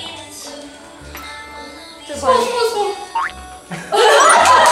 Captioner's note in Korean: 폴짝